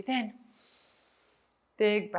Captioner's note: inhales